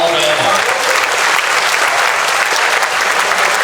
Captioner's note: clapping